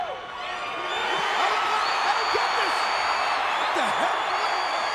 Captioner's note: audience cheering